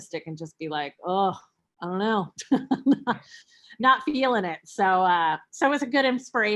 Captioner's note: chuckles